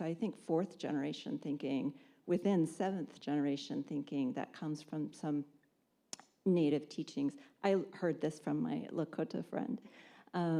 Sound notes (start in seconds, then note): none